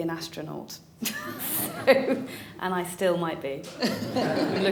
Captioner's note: laughter